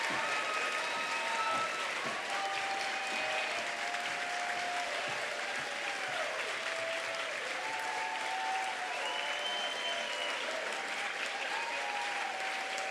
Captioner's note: applause